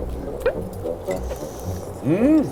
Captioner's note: eating quietly